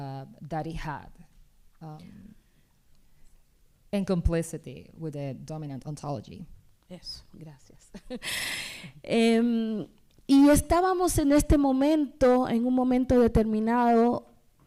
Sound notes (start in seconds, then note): 10.3 speaking spanish